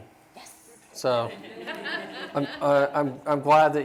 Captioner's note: laughter